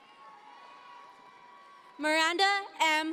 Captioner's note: audience members cheer